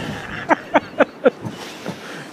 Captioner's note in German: Lachen